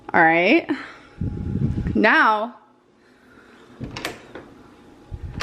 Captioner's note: door clicks